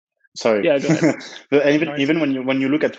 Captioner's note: chuckles